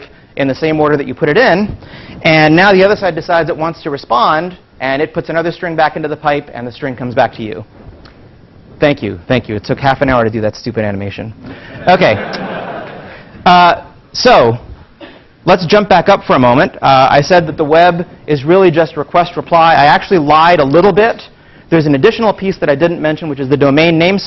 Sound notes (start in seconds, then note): 11.8 laugh